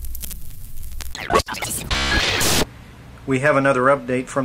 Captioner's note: radio tuning